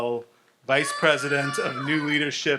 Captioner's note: audience shouts